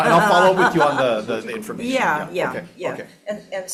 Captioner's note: audience laughing